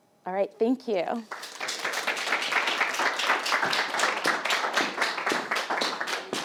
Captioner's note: applauding